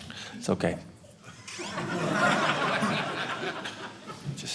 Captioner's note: audience laughing